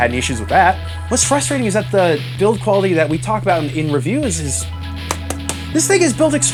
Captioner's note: slap slap slap